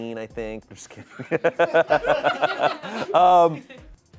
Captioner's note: audience laughing